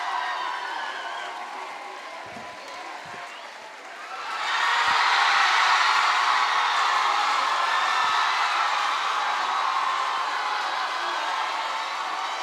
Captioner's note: applause